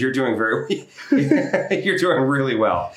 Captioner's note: laughing